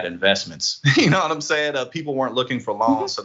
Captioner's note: laugh